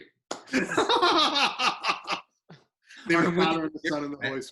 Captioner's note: laughs